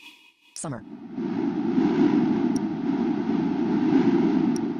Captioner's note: deep whooshing